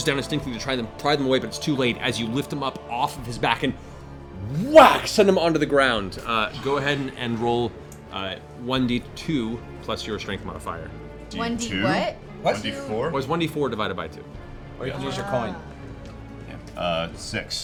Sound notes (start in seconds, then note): 3.7 whack